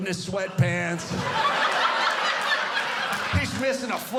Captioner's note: audience laughing